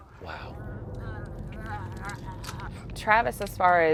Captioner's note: gagging